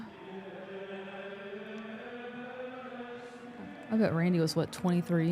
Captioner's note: group chanting